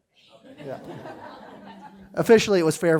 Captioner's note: laughter